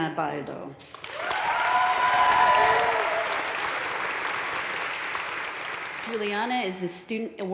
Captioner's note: audience cheering and applauding